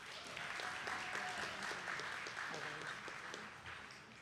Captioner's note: attendees clapping